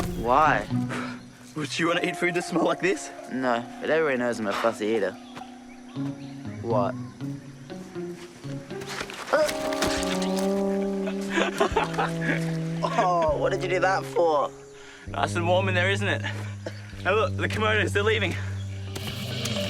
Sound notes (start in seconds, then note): 9.3 yells; 12.3 laughs